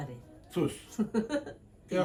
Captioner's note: laughs